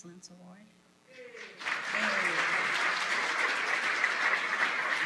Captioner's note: applause